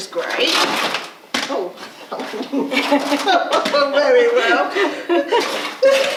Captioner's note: laughing